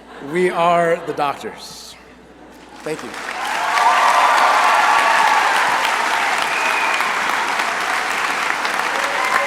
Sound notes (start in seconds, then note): 2.8 crowd cheering and applauding